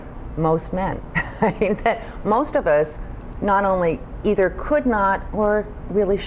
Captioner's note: laughs